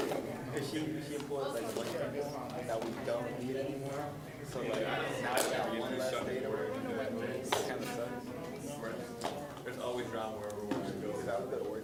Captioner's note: general chatter